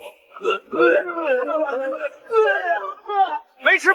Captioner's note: grunt, grunt